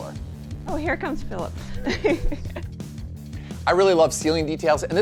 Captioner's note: laughs